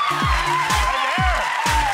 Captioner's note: audience clapping; screams; upbeat electronic music